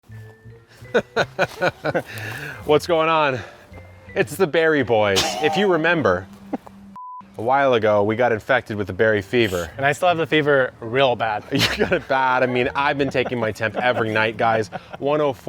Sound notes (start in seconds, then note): 0.1 cheerful music; 0.9 laughter; 5.1 laughter